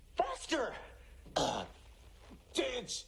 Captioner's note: choking sounds